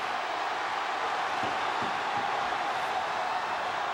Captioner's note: crowd cheering